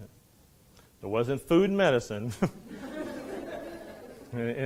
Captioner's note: students laughing